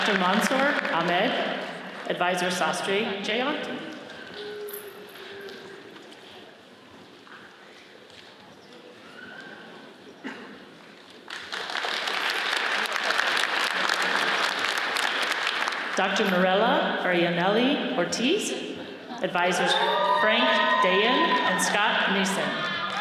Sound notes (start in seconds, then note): 11.2 audience applauds; 19.7 audience cheering